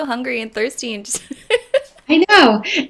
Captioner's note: laughing